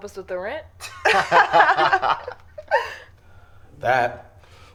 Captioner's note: group chuckles